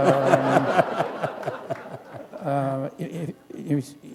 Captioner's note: laughter